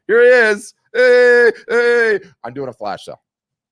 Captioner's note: yelling